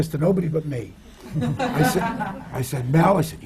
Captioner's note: laughter